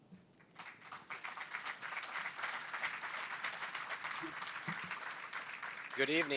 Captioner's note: applause